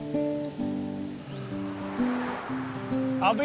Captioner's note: traffic humming